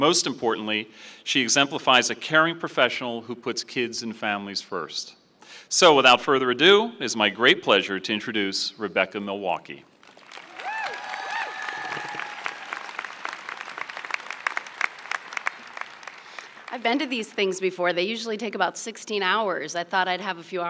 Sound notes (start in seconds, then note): 12.1 applause